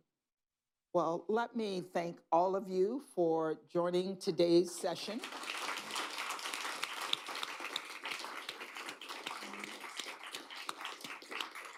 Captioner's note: applause